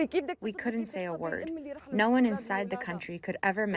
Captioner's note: through translator